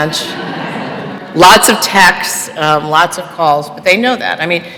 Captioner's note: laughter